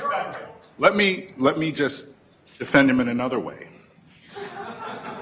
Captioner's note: audience laughter